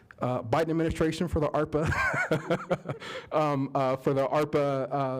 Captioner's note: laughter